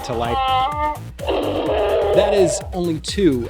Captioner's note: Chewbacca roar